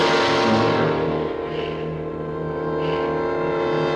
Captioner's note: ominous music; gasps